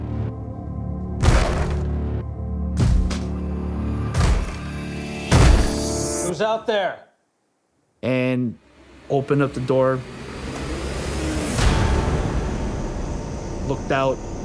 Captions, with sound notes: (banging) (banging) Who's out there? And opened up the door. (suspenseful music) Looked out.